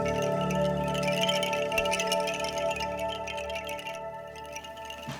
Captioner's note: clinking